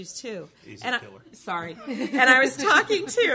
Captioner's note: chuckles